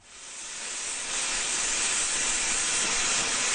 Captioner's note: blowtorch roars